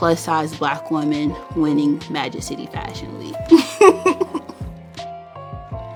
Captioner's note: laughs